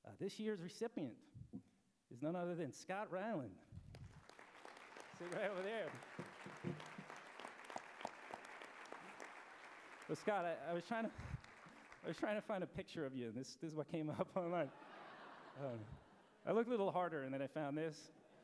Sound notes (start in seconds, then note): 3.8 background applause; 10.0 applause; 14.4 laughter